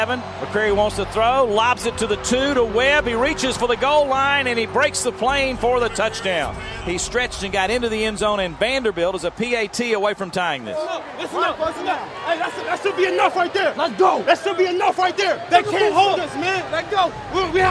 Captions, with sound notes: McCrary wants to throw, lobs it to the two, to Webb, he reaches for the goal line and he breaks the plane for the touchdown. He stretched and got into the end zone and Vanderbilt is a PAT away from tying this. [players yelling] Let's go! they can't stop us!